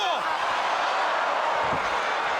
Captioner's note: exclaims; crowd cheering